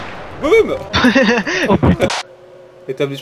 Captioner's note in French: Rire